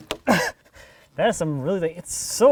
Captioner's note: laughs